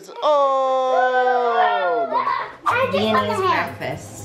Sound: all cheering

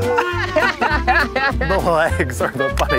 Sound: laughing

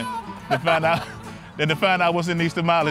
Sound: laughs

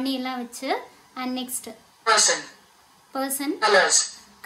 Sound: AI voice: Person

